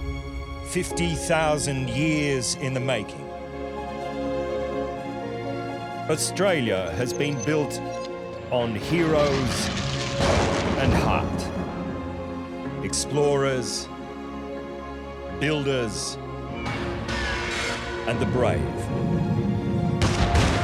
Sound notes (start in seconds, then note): 8.1 plane flying; 9.0 lighting crashes; 19.5 pistols firing